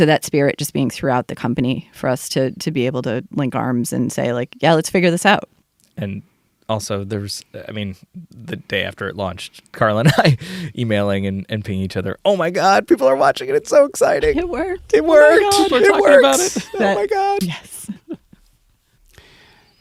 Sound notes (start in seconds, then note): 10.4 laughs